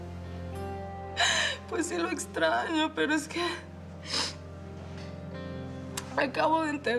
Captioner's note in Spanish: Sollozos